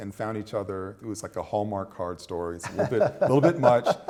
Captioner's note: laughter